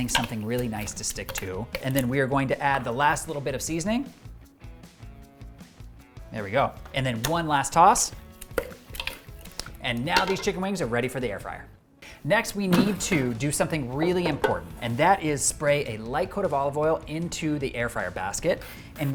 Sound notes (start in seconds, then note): 6.0 soft music; 8.0 wings stirring